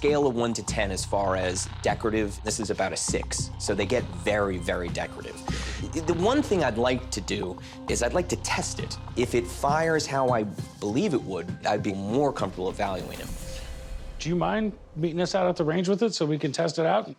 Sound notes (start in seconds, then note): none